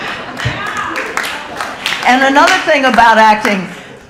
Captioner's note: audience laughing